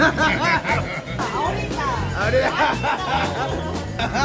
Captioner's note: in Mexican spanish